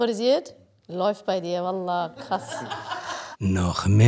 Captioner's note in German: Lachen